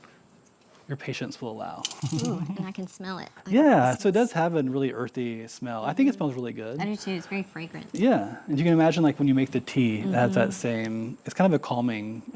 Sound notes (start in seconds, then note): 1.9 chuckling